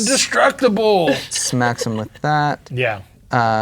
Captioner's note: laughing